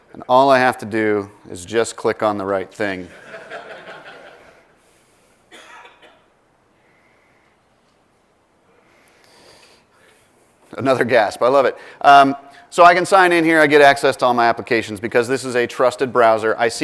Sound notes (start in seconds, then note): 3.1 laugh